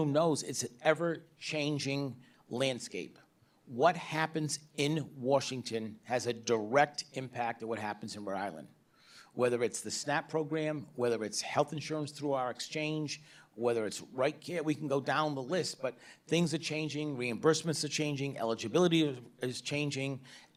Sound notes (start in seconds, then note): none